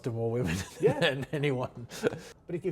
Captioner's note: chuckles